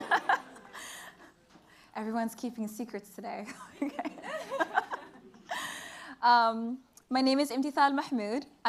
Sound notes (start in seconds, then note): 0.0 laughs; 3.5 laughter